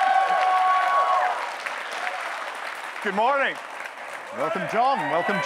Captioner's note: cheering